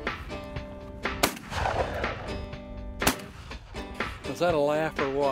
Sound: gunshots

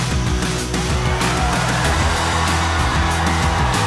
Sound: cheering

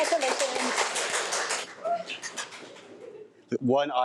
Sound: audience applause

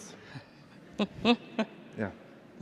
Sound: laughs

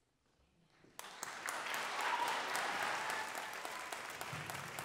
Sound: audience applauds

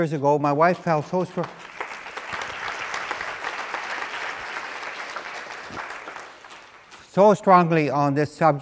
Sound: applause

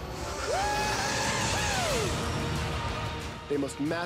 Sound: excitedly shouting

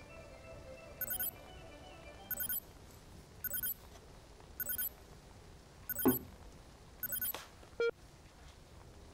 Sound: communicator beeping

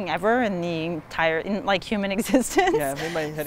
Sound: laughs

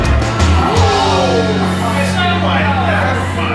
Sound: exclaiming; groaning

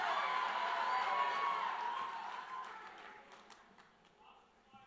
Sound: audience cheers

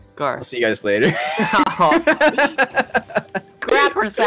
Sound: laughs

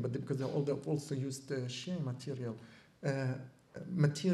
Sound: non-english

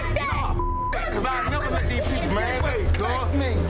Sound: beep

